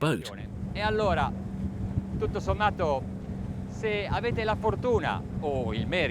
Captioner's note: speaking foreign language